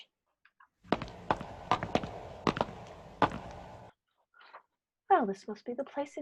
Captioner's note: footsteps on stone